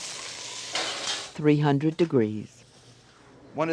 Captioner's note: voiceover